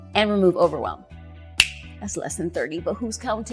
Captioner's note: fingers snap